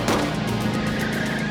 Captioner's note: two gunshots; tires squealing